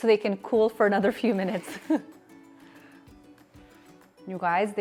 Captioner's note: laughing